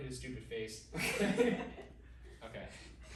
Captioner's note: team laughing